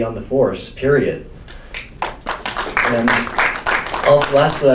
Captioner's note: audience applauds